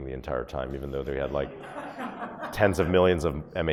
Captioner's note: audience laughs